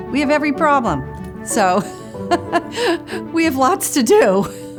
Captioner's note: laughs; laughs